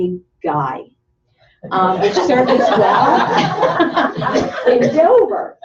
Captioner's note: laughter